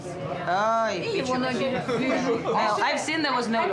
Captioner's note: speaking Russian